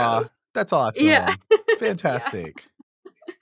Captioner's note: chuckles